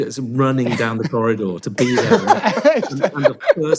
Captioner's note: all laugh